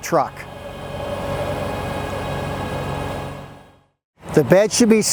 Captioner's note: machinery whirring